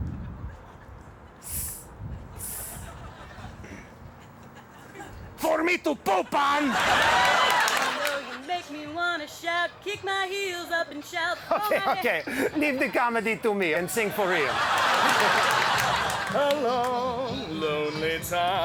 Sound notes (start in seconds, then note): 6.3 audience laughs; 12.3 audience laughs and applauds